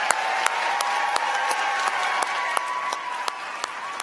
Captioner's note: applause